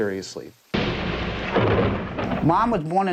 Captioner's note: thunder crashing